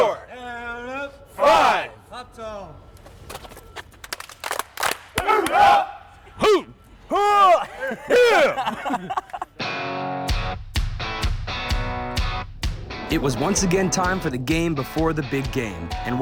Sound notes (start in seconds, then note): 4.0 claps; 7.6 laughter